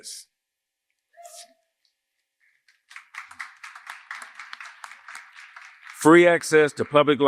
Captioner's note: cheers and applause